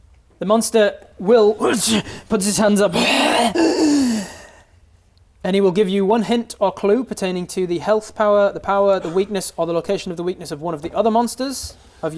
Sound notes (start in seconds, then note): 1.5 hrghh!